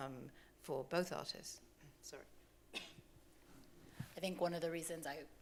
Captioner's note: coughs